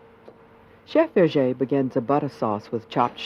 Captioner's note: voiceover